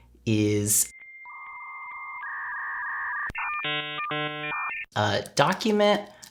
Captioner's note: dial-up noises